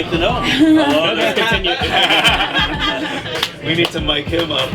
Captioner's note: laughing